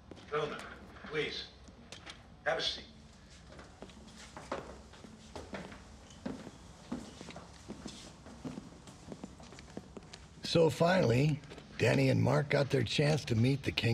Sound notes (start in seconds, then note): none